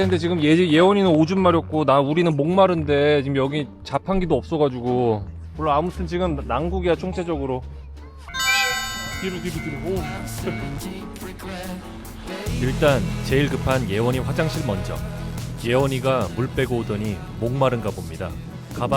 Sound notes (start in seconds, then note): 8.3 Train to Sapporo arriving